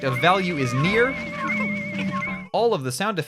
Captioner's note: alarm noises